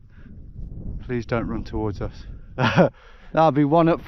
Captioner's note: laughs